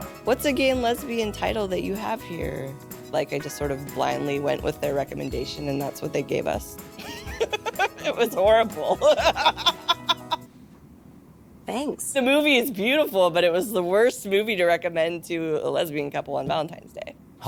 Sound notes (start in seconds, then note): 8.7 laughs; 9.0 laughter continues